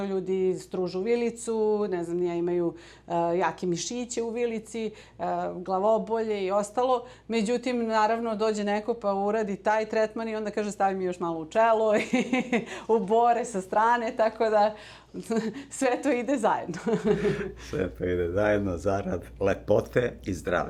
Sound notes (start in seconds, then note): 13.3 laughter